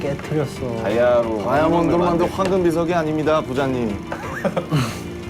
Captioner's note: rumbling